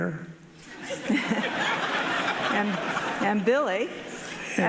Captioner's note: audience laughing